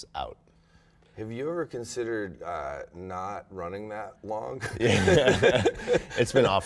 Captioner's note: laughter